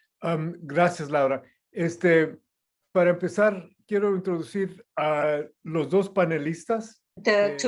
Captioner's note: non-english speech